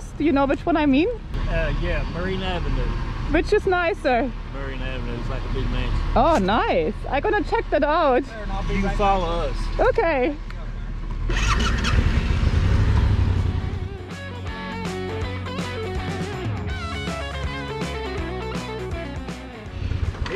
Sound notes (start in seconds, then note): 11.0 motorbike starting; 13.8 upbeat music